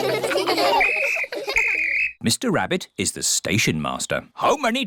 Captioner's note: blows whistle